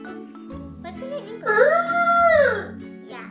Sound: dad makes trumpeting noise

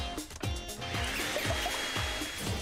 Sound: upbeat music; whirring

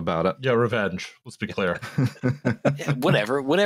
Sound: laughter

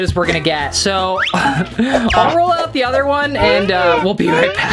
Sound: laughs

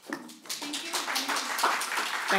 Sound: applause

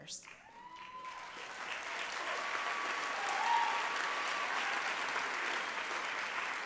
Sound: applause

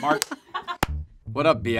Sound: laughs

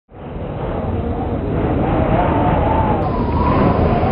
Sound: wind howls

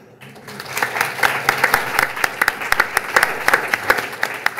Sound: audience clapping

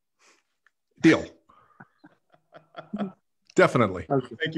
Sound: all laughing

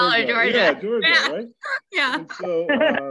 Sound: laughs

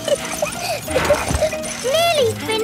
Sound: peppa laughing

